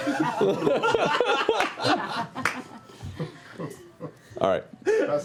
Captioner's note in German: Gelächter